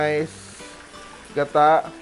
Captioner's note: sizzle